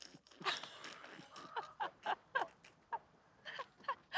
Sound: laughter

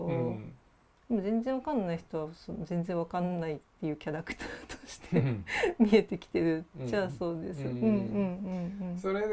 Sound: laugh

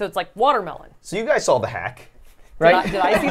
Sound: laughs

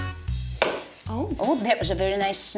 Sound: biscuit snaps

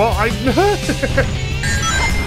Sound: laughter

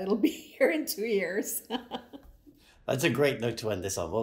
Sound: laughing

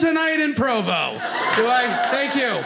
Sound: audience applauding

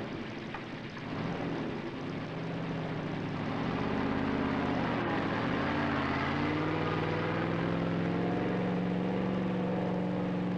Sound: sound of truck engine

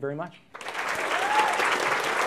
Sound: applause

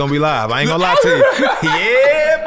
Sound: laughs

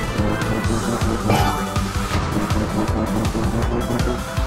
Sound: jump sound

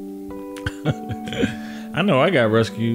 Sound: laughs softly

